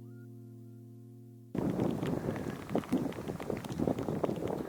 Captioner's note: water droplets; windy